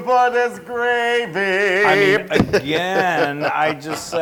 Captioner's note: laugh